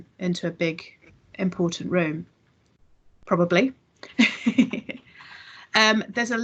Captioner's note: laughs